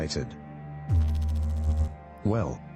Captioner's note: electrical noise